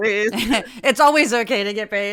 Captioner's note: laugh